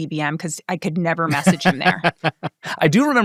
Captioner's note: laughing